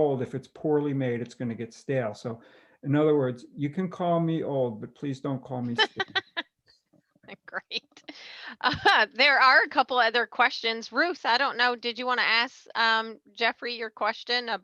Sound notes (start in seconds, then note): 5.7 laughing